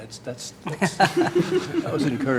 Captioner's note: laughter